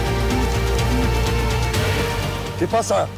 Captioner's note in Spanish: Suena el celular